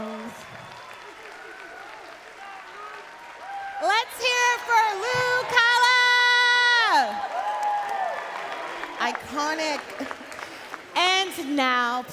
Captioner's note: cheering and Applause